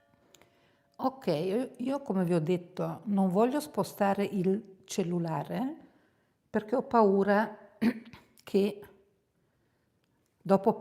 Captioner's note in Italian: schiarire la voce